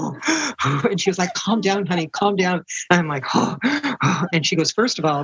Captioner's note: makes frantic deep breathing noises; makes frantic deep breathing noises again